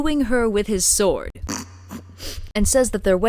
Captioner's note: snort, scoff